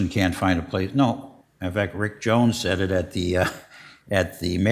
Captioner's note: chuckles